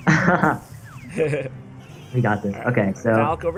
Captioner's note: both laugh